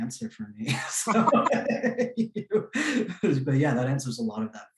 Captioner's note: laughs